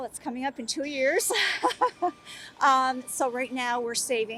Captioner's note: laughs